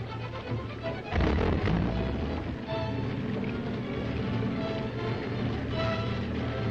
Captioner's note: submarine chugging; uneasy dramatic music